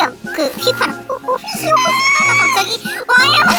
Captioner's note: sound whistle